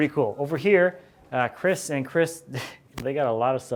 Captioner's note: laughs